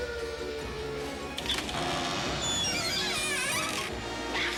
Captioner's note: creak